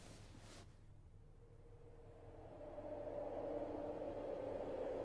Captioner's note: wind howling